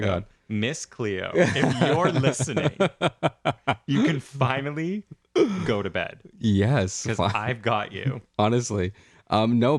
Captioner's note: laugh